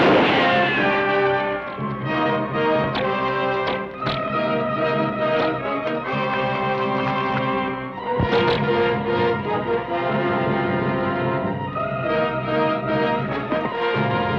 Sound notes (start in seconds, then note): 0.0 gun fires; 0.0 bullet ricochets; 3.1 bows twang; 8.5 bows twang